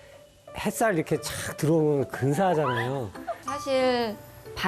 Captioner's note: hahahahahahaha